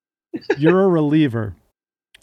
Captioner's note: Sean laughs